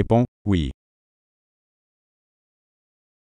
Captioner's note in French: silence